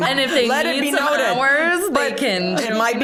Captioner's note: all laughing